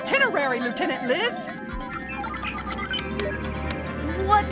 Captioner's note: buttons beeping